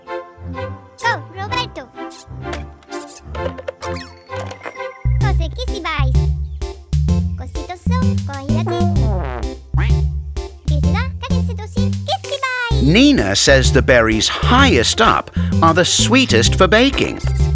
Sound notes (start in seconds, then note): 4.9 speaks gibberish